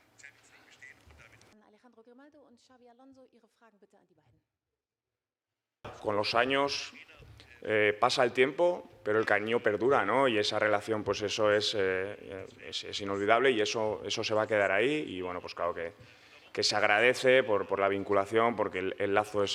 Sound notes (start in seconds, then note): 6.8 Spanish